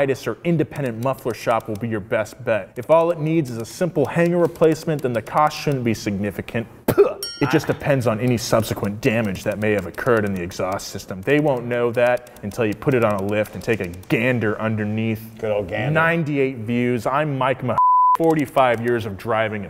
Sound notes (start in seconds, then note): 6.9 spits; 17.7 beep